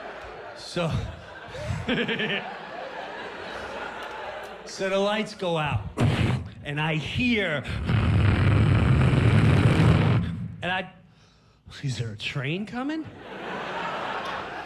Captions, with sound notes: SO-- [laughs] SO THE LIGHTS GO OUT, AND I HEAR-- [makes rumbling sound] AND I-- IS THERE A TRAIN COMING?